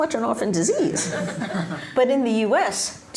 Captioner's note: laughter